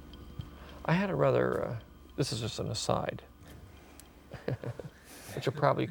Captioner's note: chuckles